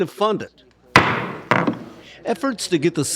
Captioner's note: gavel slams down